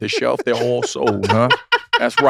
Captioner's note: laugh